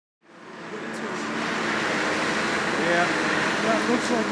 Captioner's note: machinery whirring